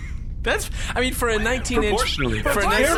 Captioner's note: sighs